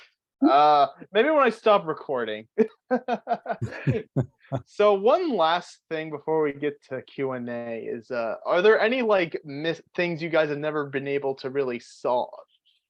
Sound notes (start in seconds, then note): 3.0 laughs